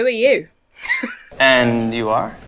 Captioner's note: laughs